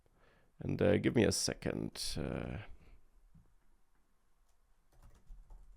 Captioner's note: keyboard clicking